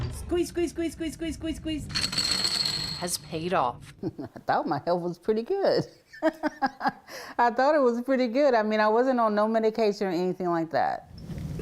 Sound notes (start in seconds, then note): 2.0 disks jingling; 6.1 chuckles; 7.0 laughs